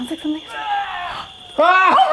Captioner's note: roars; laughs